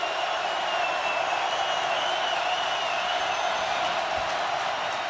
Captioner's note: crowd cheering